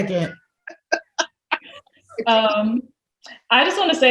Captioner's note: laughs